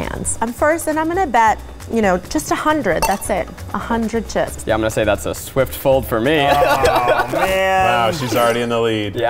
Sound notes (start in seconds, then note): 6.5 laughing